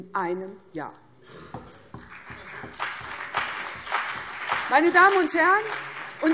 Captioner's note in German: Beifall CDU und BÜNDNIS 90/DIE GRÜNEN